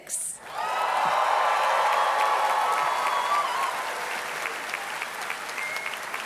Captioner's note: audience cheers and claps